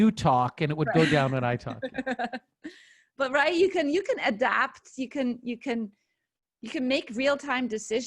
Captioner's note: laughter